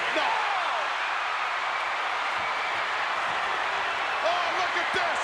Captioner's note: crowd cheering